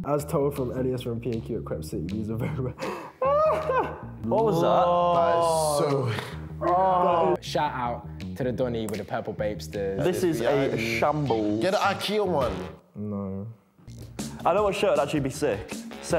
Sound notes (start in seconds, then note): 2.4 laughs